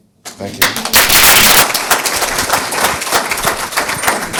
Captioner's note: audience applauds